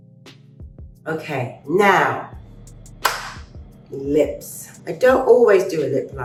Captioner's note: claps